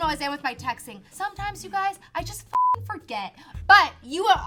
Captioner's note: beep